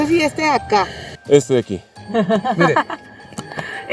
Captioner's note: laughter